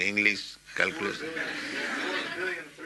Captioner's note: laughter